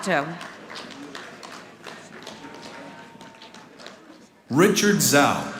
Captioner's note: audience applauding